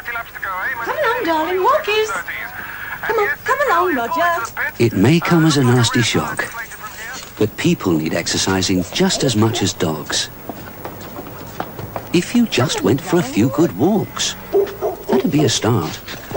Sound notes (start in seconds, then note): 14.3 barking in distance